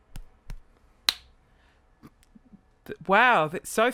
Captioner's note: finger snap